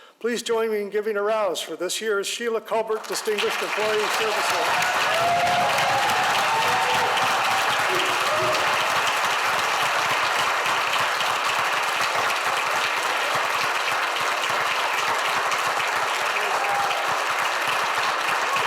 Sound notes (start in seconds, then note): 5.5 audience applauds; 5.5 audience cheers